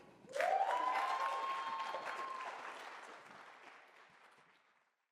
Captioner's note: attendees cheering and clapping